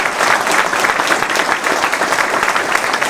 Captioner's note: applause